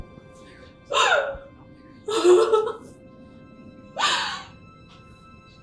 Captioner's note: sobbing